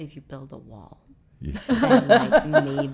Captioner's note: laughing